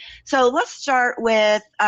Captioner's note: none